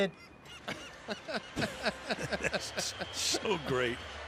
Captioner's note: chuckling